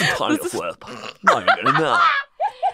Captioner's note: laughs